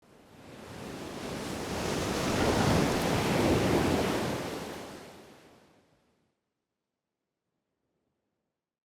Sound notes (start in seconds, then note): 1.2 waves crashing